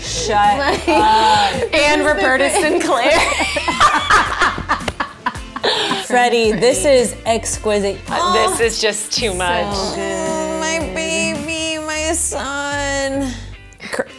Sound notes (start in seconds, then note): 4.1 laughing